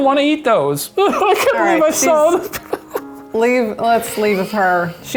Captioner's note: sobs